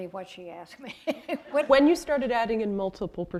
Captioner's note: chuckle